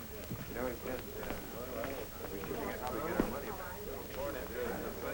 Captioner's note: chattering